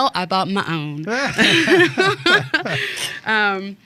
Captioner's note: laughing